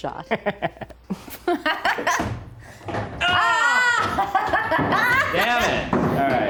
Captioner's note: laughs